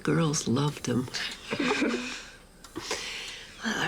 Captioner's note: giggles